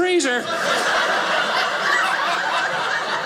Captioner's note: audience laughing